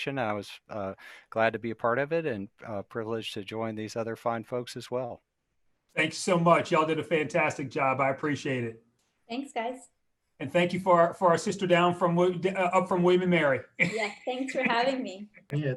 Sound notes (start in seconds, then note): 13.7 laughs